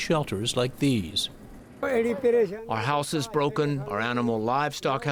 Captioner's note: through translator